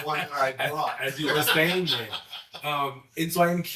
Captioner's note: laughing